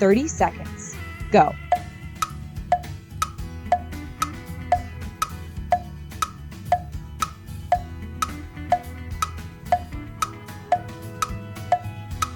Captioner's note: clock ticking